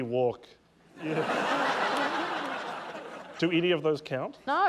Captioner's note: laughter